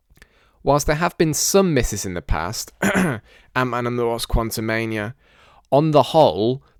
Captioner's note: cough